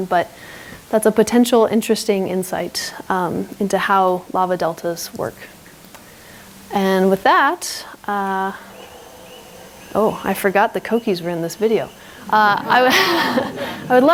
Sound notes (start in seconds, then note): 8.0 coquis chirping; 12.7 all laughing